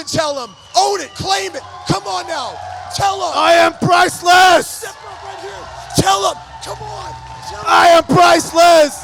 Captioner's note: crowd Cheering